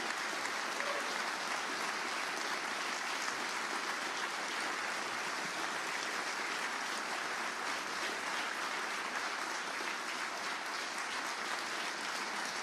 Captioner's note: applause